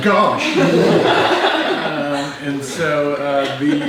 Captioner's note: group laughs